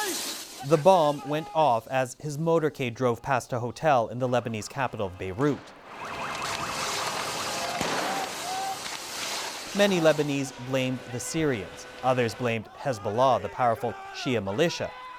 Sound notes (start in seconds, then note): 6.7 sirens blaring